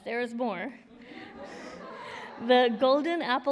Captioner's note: laughter